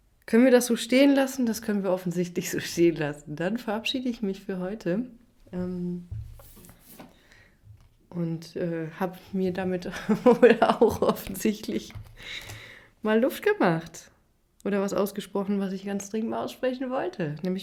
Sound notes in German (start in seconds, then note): 9.9 gelächter